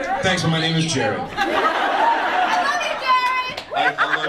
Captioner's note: audience laughs